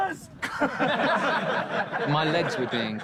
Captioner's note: all laughing